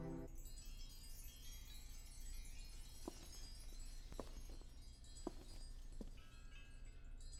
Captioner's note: wind Chimes